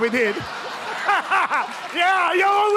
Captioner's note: laughter